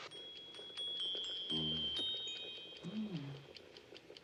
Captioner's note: CLOCK CHIMlNG